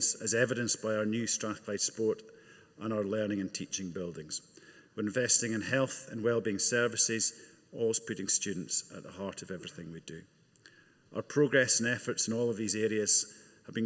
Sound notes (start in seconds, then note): none